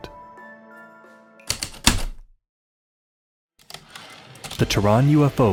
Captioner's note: heavy typewriter keystrokes then return slide